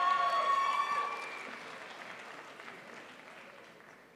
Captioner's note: crowd applauds